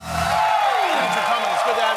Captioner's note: applause